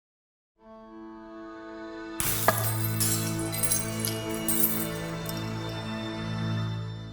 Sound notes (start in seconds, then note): 2.0 soft music; 2.2 glass smashing